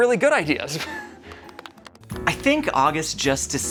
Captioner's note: crowd lightly clapping